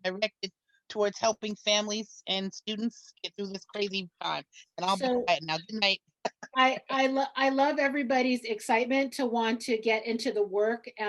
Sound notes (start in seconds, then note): 4.8 laughs